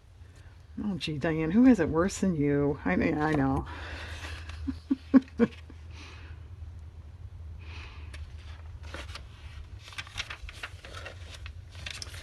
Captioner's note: laughs